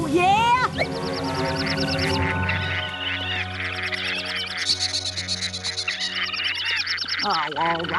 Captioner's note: urgent chirping & chittering